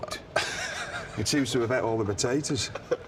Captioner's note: Sheamus laughs